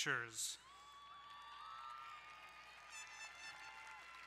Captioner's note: crowd cheering